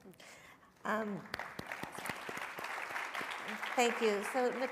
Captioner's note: and audience applauding